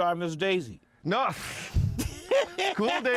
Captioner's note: laughs